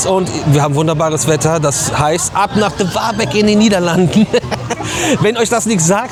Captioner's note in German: gelächter